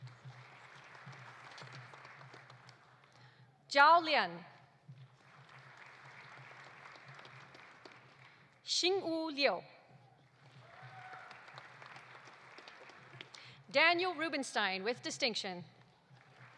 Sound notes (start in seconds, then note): 0.0 audience applauding; 5.0 audience applauding; 10.2 audience applauding; 10.5 audience cheering